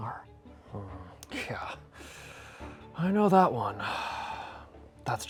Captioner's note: sighs